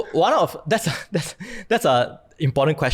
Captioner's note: chuckles